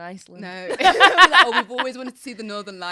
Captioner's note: both laughing